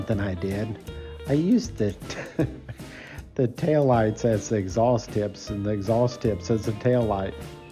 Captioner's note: laughing